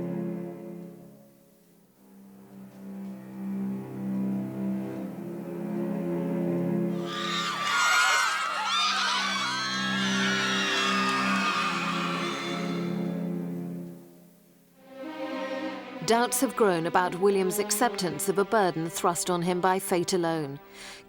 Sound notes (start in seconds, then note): 6.9 fans screaming; 14.8 dramatic music